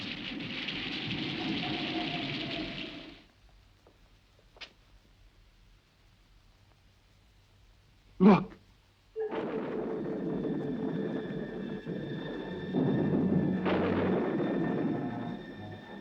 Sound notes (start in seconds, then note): 9.2 ominous music; 9.2 thunder crashing